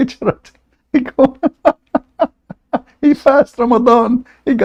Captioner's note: Ketawa